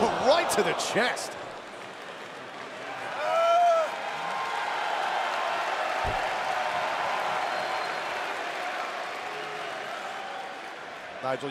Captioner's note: crowd cheering